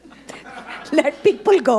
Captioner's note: audience laughing